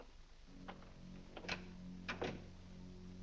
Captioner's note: doors close